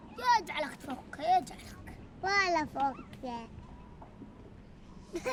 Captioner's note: speaking foreign language